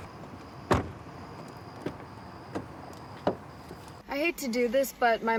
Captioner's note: door clicks